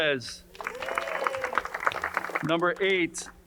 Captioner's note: crowd cheering and applauding